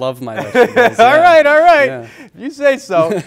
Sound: laughs

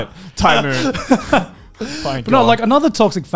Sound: laughs

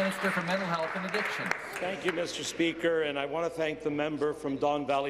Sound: applause

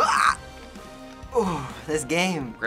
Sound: sighs in relief

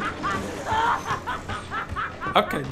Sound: Marguerite continues laughing; laughs nervously

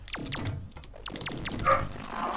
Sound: woof

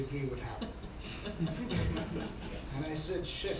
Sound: laughing

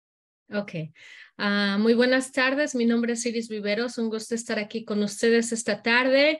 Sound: speaking in Spanish

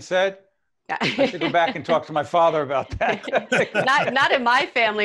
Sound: laughter

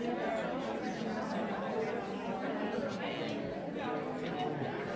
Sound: crowd chattering

